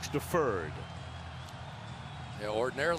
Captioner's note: cheering